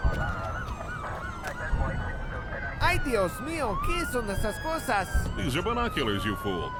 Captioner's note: sirens wailing; speaking Spanish